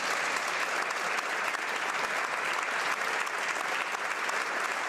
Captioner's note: speaking French